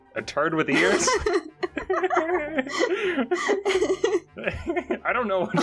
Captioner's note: laughing